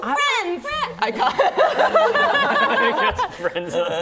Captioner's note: laughing